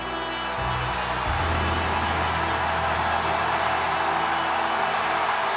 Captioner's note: audience continues cheering; ominous music continues